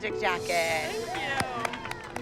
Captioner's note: applause and cheering